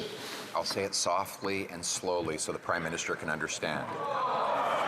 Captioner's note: some Applause